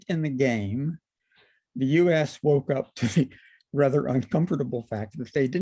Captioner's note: laughter